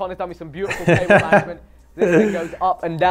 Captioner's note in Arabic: يضحك